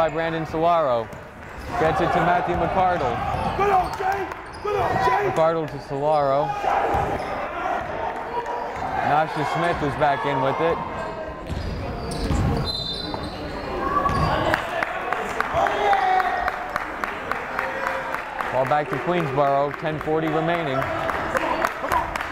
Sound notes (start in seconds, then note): 4.1 yelling; 12.6 whistle blowing